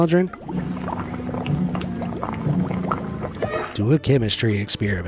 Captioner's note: liquid gurgles